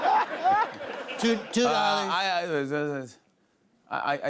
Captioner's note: laughter; stammers